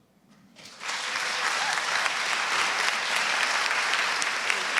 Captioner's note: audience applauding